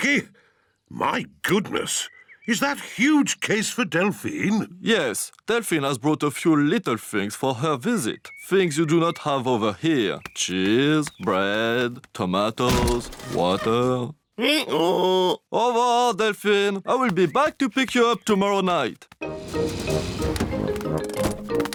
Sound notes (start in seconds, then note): 13.2 brays